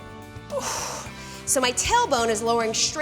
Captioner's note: exhales